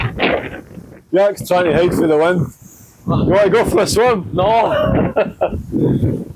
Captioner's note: laughter